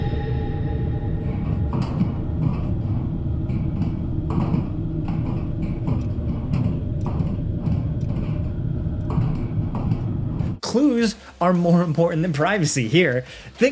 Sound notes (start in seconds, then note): 0.0 sparse tense music; 0.0 vent hatch clanking; 1.4 footsteps tapping